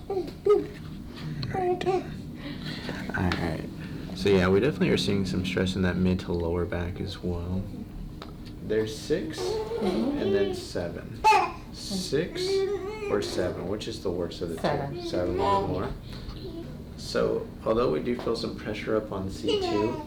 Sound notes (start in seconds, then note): 11.2 baby gurgling